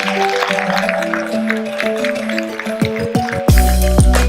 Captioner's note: audience applauding